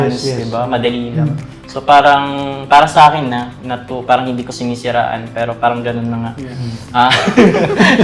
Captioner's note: laughs